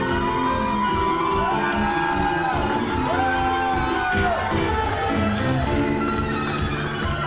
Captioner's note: cheering